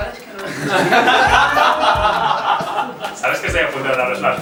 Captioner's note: laughs